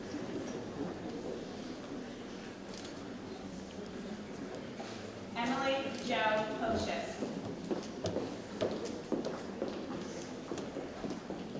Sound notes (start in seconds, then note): 2.7 camera clicks